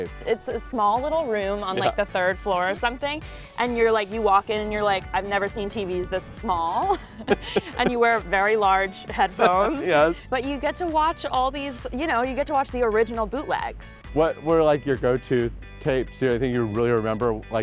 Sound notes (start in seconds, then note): 9.0 laughs